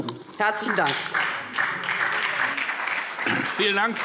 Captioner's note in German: Beifall SPD